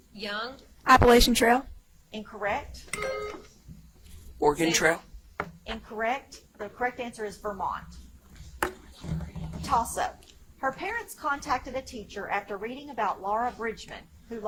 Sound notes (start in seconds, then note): 3.0 buzzer chimes; 8.6 whispers